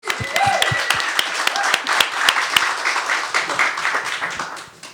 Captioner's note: attendees applauding